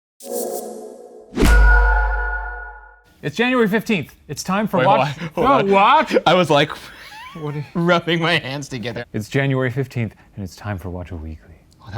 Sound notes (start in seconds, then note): 0.2 logo whooshing; 0.2 ethereal music; 6.6 laughs